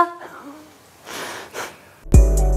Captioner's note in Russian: усмехается